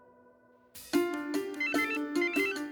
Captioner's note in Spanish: Suena el celular